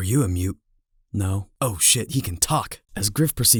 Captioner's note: surprised